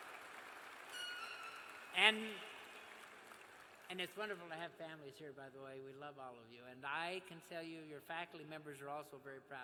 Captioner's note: cheers and applause